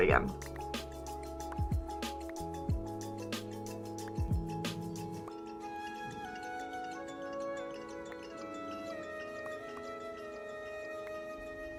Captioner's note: plop plop